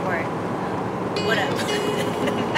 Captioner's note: upbeat music; laughs